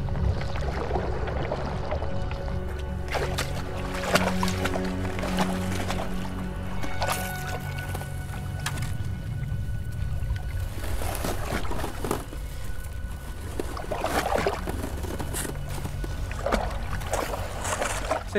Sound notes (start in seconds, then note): 0.1 ominous music; 3.6 water splashing; 16.5 water splashing